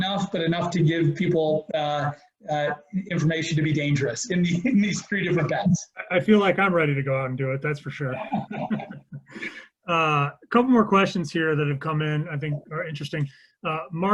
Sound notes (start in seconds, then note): 4.4 laughs; 8.1 laughs